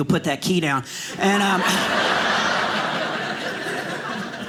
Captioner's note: audience laughing